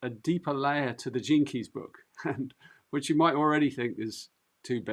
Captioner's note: chuckles